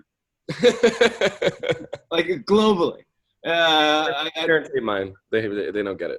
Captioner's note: laughs